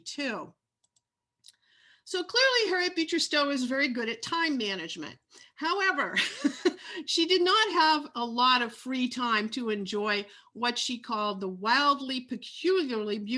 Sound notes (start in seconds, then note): 6.2 laughs